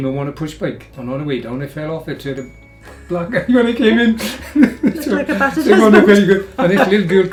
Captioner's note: laughs